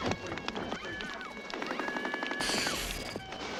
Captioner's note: screaming and alarm